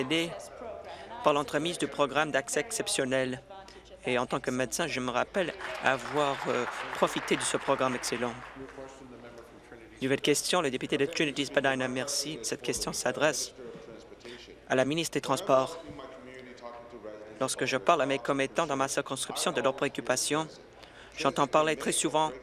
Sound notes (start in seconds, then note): 9.4 applause